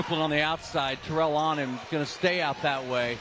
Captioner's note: applause